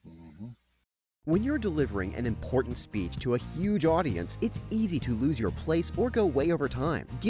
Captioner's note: voiceover